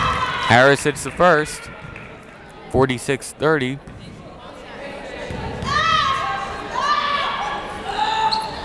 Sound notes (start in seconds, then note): 5.0 yelling